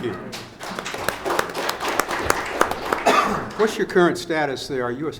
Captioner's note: audience applauds